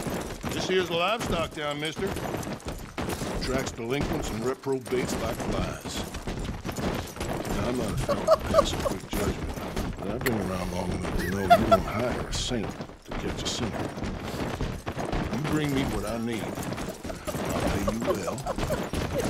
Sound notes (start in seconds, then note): 7.8 laughing; 11.1 more laughing; 15.4 struggling laugh